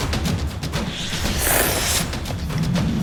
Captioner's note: slurp